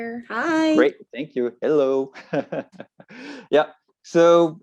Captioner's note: laughs